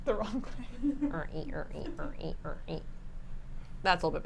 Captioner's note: hums